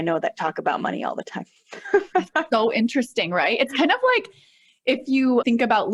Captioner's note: laughter